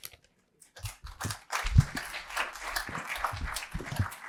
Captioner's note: applause